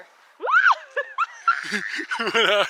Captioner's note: screams